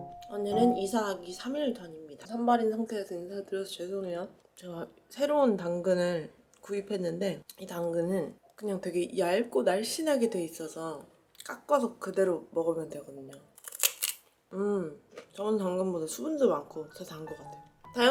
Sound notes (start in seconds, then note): 13.5 crunch!